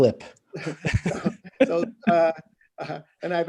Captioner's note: laughing